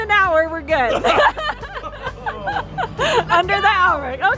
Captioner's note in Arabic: الكل يضحك